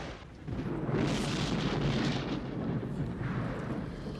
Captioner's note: thunder